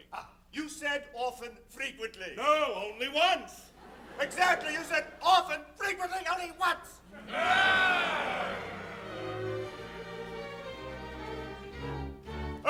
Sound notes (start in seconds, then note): 7.2 Pirates grumble